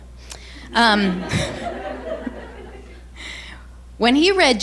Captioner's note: crowd chuckles